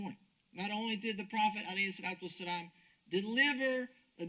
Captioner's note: speaks Arabic; speaks Arabic